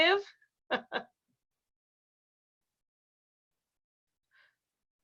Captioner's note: chuckles